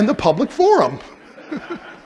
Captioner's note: laughter